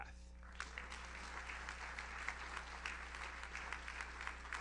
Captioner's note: audience applauds